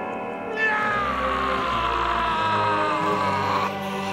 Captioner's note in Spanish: Gritando